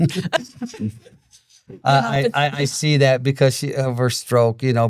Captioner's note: both laughing